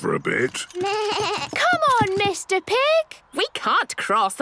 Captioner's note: bleating